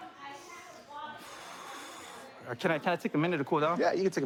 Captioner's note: exhales